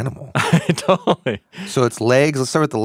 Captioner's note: laughs